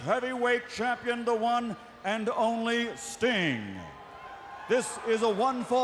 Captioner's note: crowd cheering